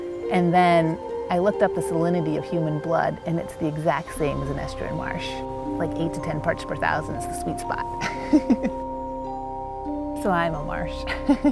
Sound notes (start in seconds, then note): 8.0 laughs; 11.2 laughs